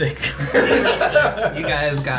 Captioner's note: laughing